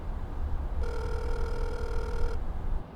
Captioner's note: phone ringing